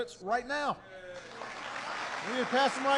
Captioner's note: applause